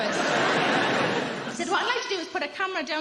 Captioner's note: crowd laughing